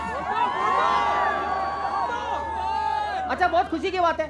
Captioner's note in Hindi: चियरिंग